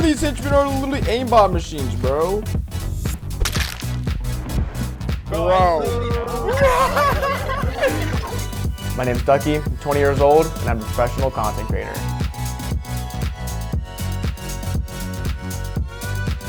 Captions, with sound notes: this henchman have a little aimbot machines, bro. (chattering) What... (laughs) My name's Ducky. I'm 20 years old. And I'm a professional content creator. (upbeat music)